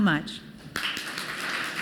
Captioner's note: applause